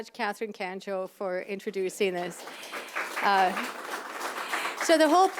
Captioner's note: applause